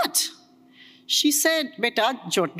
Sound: speaks foreign language

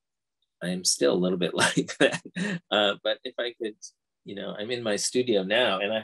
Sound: laughs

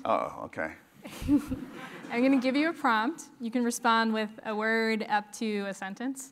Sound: laugh

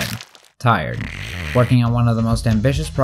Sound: snoring

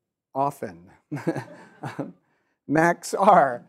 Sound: chuckles

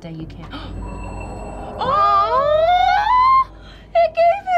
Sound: gasping; both cooing

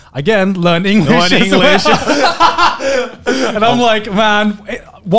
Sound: laughs

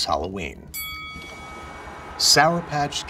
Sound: bell dings

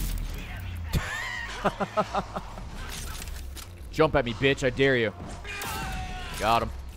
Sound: laughs

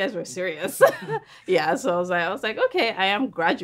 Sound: laughing

